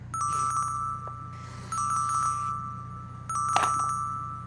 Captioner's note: phone rings